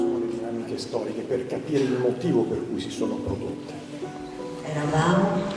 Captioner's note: speaking in foreign language